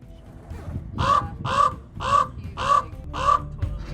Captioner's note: cawing